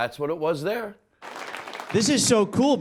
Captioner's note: audience applauding